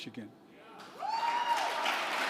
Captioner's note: applause